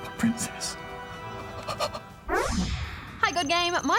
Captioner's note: gasps